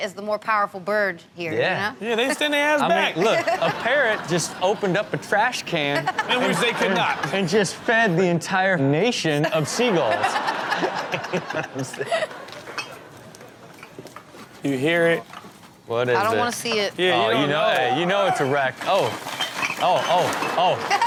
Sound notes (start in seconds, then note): 2.2 crowd laughs; 9.4 all laugh